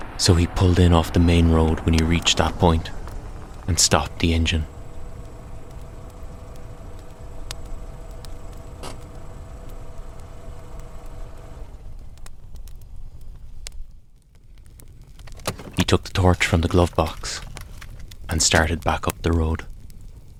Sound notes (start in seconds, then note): 5.6 sound of engine idling then stopping and the handbrake engaging; 15.7 sound of rummaging in glove box followed by car door opening and closing